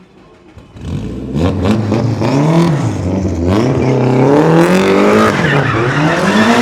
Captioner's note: engine revving; tires screeching